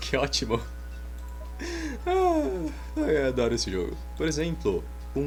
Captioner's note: laughing all by himself while saying "I love this game!"